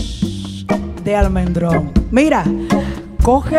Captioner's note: speaking in Spanish; gentle music; singing in Spanish